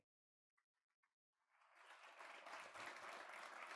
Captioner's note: audience claps